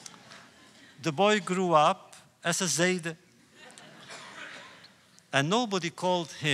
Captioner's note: laughter